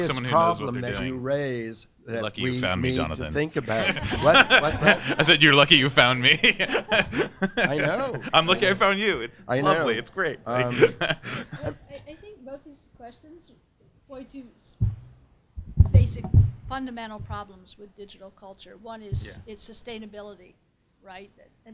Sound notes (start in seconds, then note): 3.6 all laughing; 7.3 laughs; 10.5 laughing